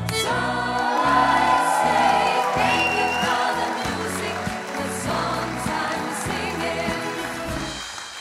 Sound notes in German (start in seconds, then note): 2.8 Jubel, Applaus